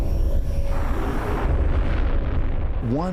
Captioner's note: rocket launching